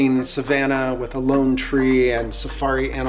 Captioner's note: none